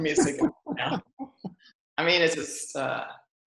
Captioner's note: laughs